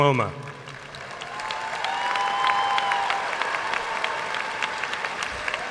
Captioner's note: audience cheering and applauding